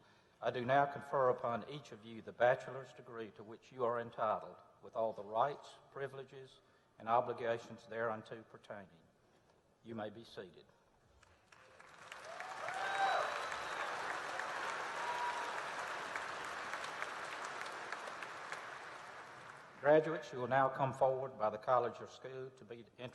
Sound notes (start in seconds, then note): 11.1 applause